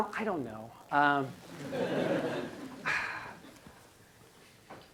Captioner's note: laughing